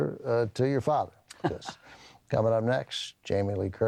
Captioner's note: laughs